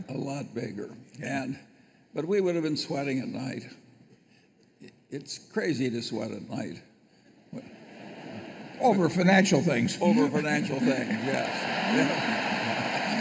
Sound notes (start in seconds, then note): 10.1 laughter; 10.4 laughter and applause